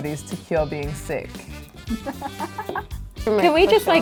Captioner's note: laughing